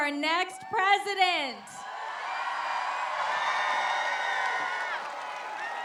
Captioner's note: applause